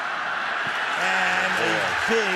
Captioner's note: cheering